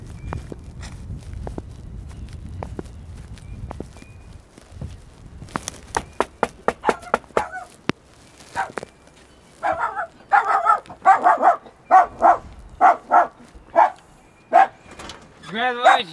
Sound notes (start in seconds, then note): 5.9 knocking; 9.6 dog barking